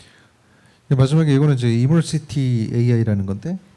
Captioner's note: speaking korean